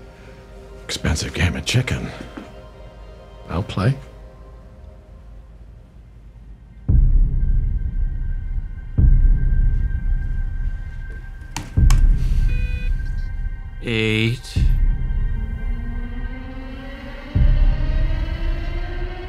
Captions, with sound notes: Expensive game of chicken. I'll play. (ominous music) (keyboard clicks) (device beeps) - Eight. (ominous music continues)